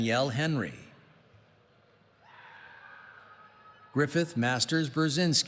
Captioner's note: none